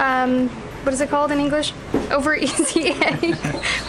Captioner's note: laughs